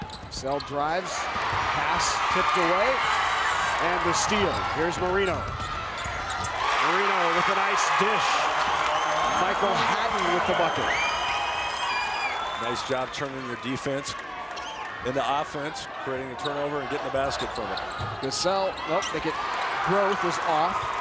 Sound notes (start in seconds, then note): 8.5 crowd cheers